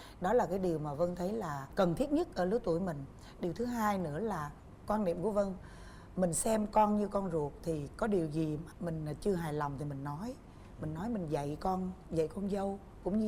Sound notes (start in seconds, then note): none